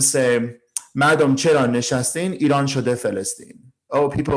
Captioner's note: speaking in foreign language